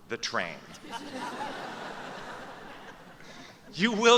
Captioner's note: laughter